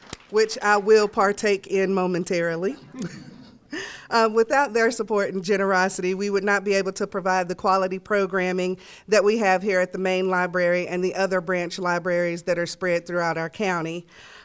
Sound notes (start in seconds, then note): 0.0 applause; 2.8 laughter